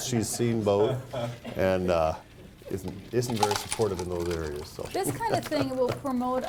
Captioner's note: laughs